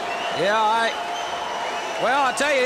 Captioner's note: crowd cheering